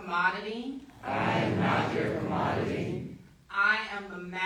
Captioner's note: crowd